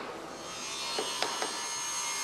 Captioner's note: grinding noises